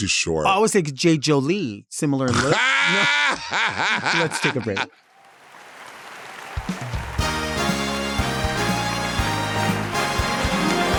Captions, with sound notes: - I would say Jade Jolie, similar in look. (laughing) Let's take a break. (audience applauding) (upbeat music)